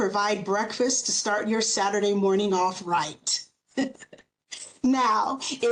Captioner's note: chuckles